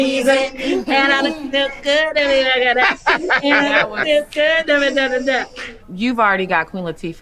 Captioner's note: group laughing